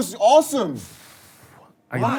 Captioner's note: sigh